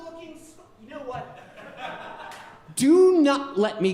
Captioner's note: audience laughing